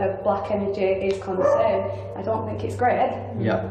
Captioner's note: dog barks